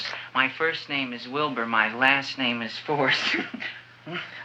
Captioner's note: laughs